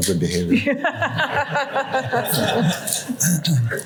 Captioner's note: laughter